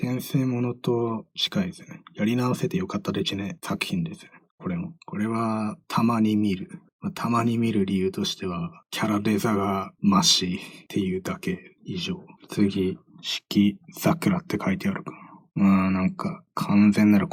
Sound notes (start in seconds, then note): 4.1 emotionless